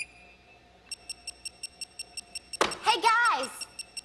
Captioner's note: beeping